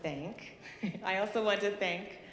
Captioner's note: chuckling